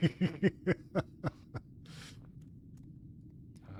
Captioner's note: laughter